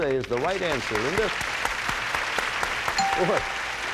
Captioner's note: applause; bell rings